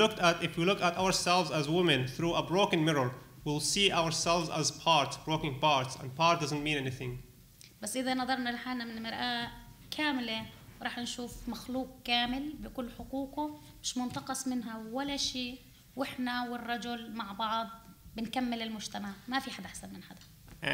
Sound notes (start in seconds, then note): 7.7 speaking arabic